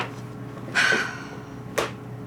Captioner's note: sighs